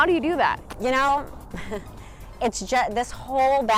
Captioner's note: laughs slightly